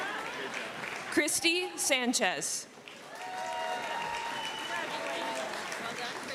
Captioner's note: cheering and applause